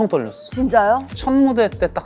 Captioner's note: aww